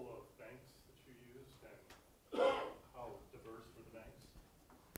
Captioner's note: cough